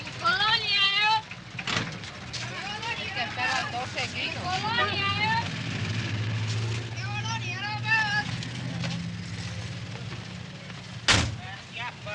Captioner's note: busy Street Sounds